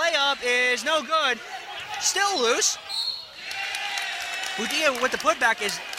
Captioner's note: whistling